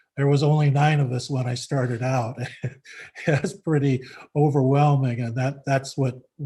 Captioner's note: laughs gently